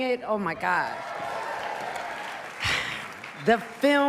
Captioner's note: cheers and applause